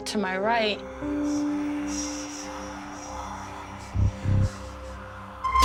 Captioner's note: whispering